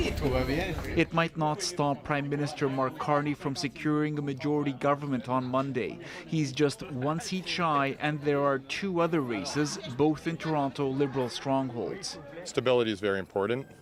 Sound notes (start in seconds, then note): 3.8 speaking French